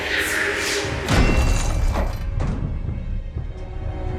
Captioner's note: axe thuds; pensive music